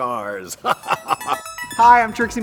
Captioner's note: Katya laughs